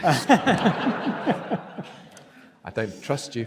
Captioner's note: audience laughs